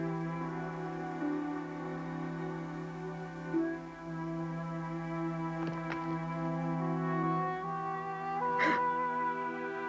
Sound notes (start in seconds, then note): 5.5 rocks falling; 8.6 both gasp